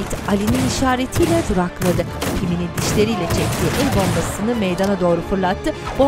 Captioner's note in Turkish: Silah sesleri